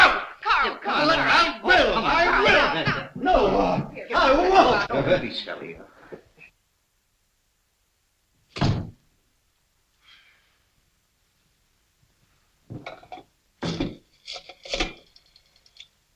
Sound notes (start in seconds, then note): 0.0 arguing